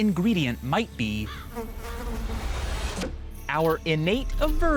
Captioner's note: fly buzzing